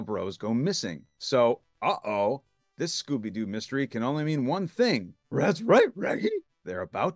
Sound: in best Scooby

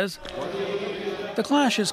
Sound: speaking Foreign Language

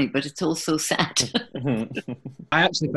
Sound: laughter

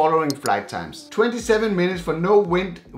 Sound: mouse clicks

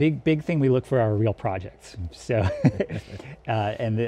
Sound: laughs

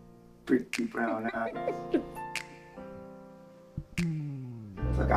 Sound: chuckling

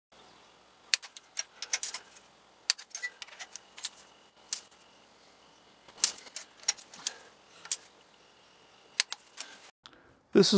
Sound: torque wrench clicking and ratchet noises

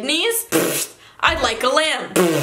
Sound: puffs

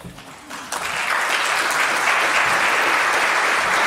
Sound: audience claps

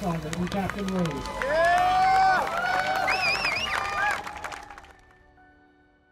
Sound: cheering

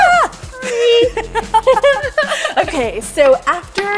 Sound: both laugh

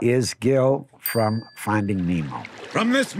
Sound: bell dinging

